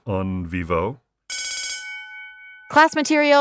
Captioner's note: bell rings